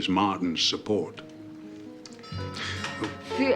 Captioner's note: doorbell rings